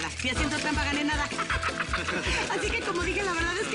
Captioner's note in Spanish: Ríe